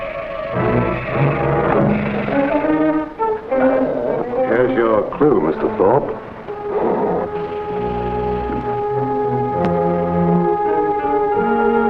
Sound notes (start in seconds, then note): 1.6 serpent hisses; 3.5 serpent growls; 6.2 serpent growls and rattles; 8.9 dramatic music